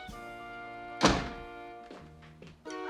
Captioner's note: door shuts